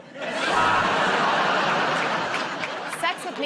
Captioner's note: laughter